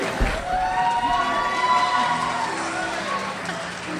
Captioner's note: crowd applauds; crowd cheers